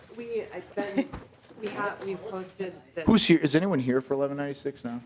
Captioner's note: laughing